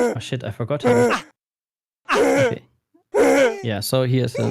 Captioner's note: game grunting noises